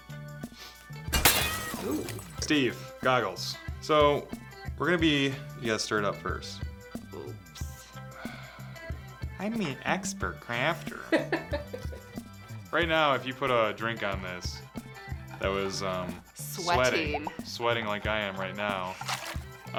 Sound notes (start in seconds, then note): 1.2 crash and cat meowing; 8.3 sighs; 11.0 laughs